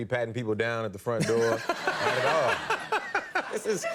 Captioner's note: audience and Conan laugh